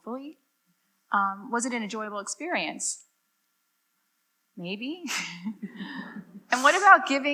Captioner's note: laughs